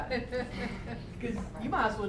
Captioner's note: laughter